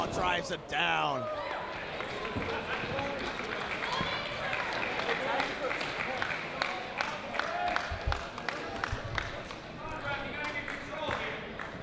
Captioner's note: applause